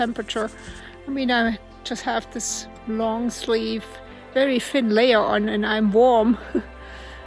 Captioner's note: laughs